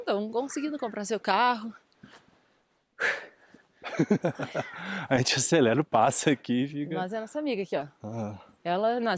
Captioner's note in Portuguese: risadas